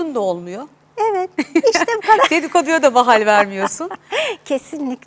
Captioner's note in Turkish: kahkaha